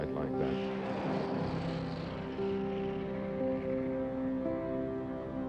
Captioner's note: boosters firing